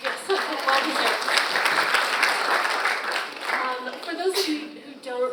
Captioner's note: audience applauds